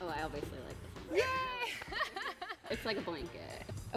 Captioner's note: laughs